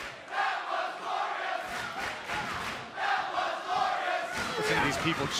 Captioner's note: fans chanting